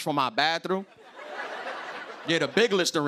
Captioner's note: laughter